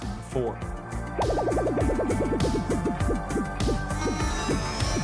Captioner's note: warp sound; static noise